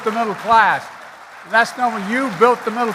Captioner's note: applause